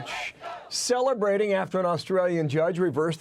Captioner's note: people chanting